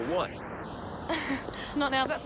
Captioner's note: Jodie laughs